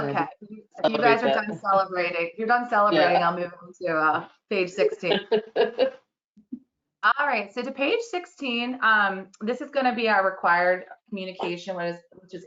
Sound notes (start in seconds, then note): 4.8 laughter